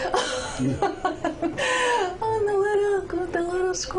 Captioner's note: laughs